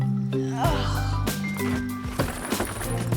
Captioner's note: grunts; luggage bag clatters